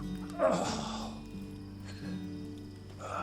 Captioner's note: Sam groans